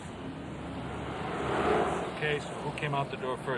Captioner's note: vehicle whirring